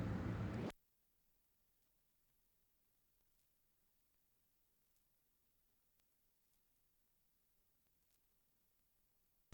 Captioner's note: silence